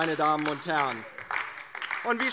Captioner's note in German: Beifall DIE LINKE